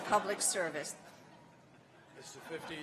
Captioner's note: laughter